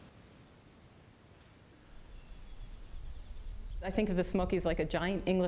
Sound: birds chirping

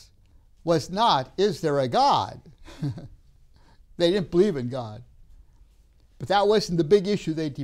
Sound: laughs

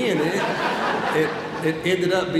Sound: audience laughs

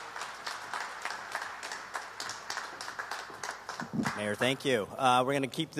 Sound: applause

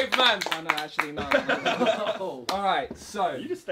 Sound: all laughing

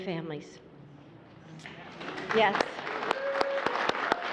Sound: applause

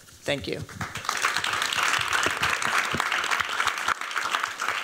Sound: applause

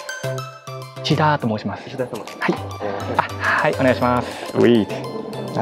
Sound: speaks in japanese

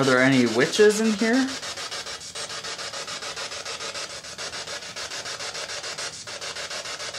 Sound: static

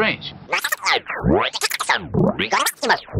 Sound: vibrato gibberish

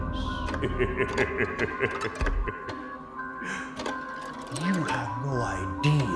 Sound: Dr. Oddfellow chuckling

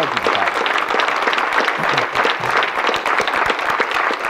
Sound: audience clapping

